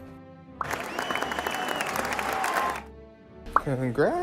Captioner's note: applause